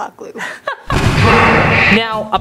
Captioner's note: laughing